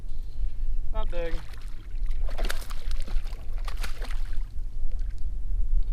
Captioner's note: water splashing